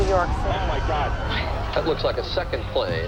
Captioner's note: explosion